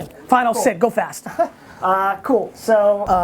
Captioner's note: laughing